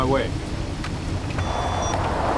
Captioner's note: line disconnects